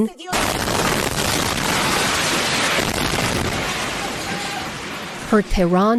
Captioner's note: explosion